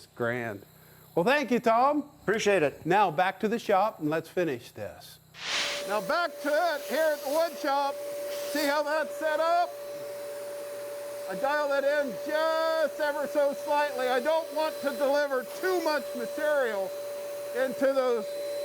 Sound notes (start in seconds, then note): 5.4 flash sound; 6.6 loud compressor sound; 8.1 yelling over compressor